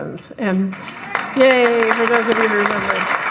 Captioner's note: audience applauding